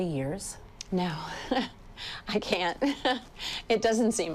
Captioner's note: laughs